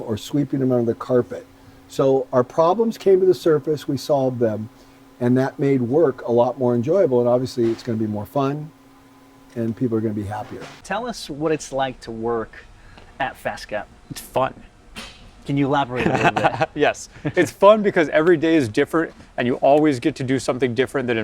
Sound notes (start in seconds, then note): 15.9 laughing